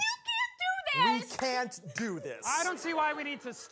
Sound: clapping

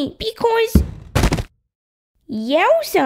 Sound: thud!; bump!

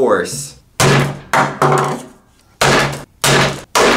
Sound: smashes

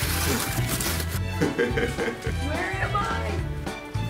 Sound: laughs

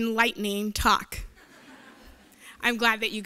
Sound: laughter

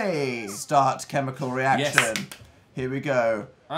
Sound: claps

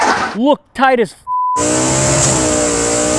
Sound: beeps

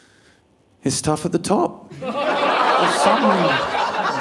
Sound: audience laughing

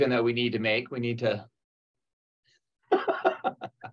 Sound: laughs

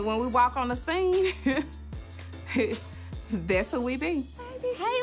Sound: laughs

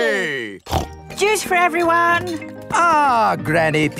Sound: snorts

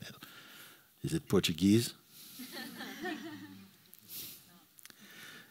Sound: laughter

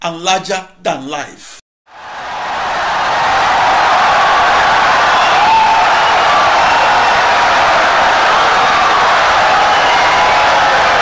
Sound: wild applause and cheering for 17 seconds

